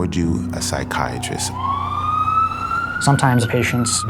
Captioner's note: siren blaring